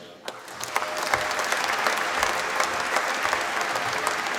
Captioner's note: applause